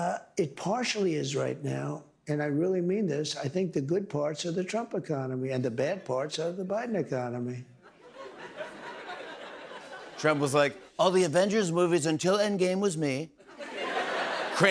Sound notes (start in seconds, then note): 7.8 laughter